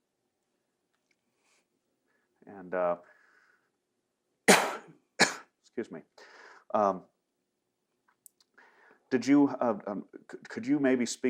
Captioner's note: coughs